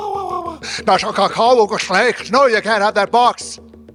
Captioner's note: imitating bird caws; speaking in foreign language